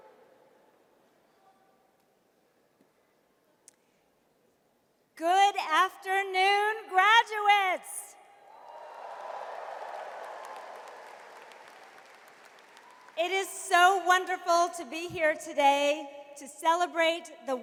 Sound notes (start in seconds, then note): 8.5 audience cheers and applauds